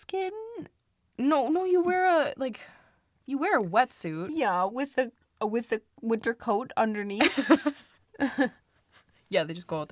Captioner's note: both laugh